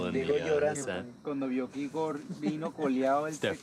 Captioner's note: speaking foreign language